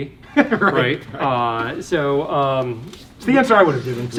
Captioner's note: host laughs